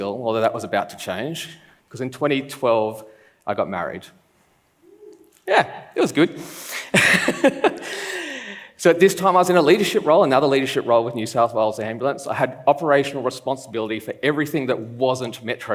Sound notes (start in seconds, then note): 7.0 laughs